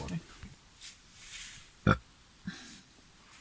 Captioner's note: burping